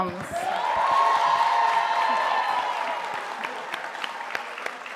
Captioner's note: audience applauding